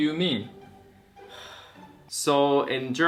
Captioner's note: sigh